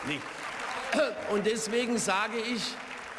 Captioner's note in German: Beifall